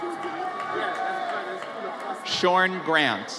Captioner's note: audience cheers